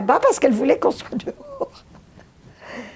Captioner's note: laughing